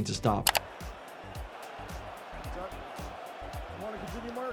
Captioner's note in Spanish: la audiencia aplaude